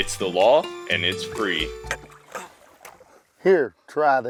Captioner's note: tired grunting